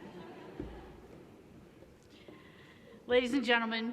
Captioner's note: laughter